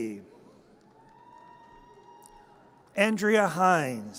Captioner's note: audience cheers